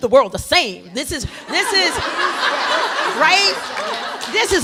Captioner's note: laughter